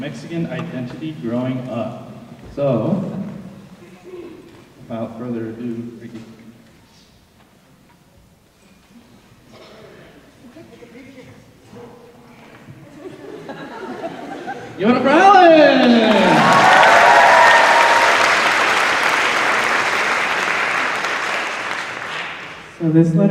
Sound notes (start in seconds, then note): 12.8 audience laughing; 15.8 applause